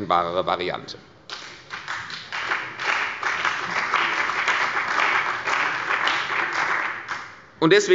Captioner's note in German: Beifall bei der CDU und dem BÜNDNIS 90/DIE GRÜNEN